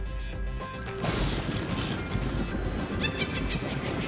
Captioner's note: thunder; witch cackle